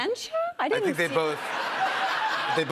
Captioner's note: laughter